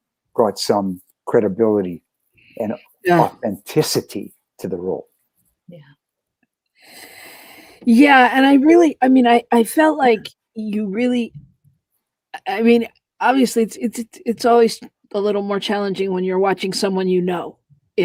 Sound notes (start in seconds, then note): 6.5 whispered